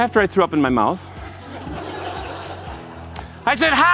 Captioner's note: laughter